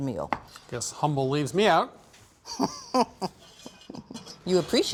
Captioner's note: laughs